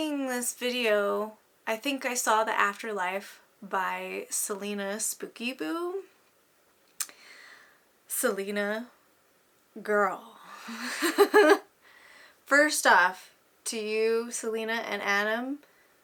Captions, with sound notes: I ended up seeing this video 'I Think I Saw The AfterLife' By CelinaSpookyBoo Celina... Guurl.. (haha) First Off... To you Celina and Adam